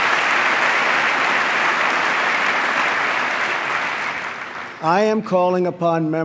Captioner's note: applause